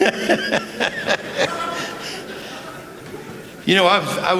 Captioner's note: laughter